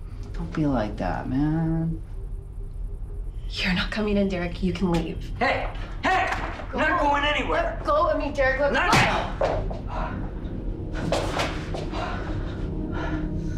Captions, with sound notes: - Don't be like that, man. - You're not coming in, Derek, you can leave. - Hey, hey, you're not going anywhere! - Let go of me, Derek, let me go. (punch lands) (tense music)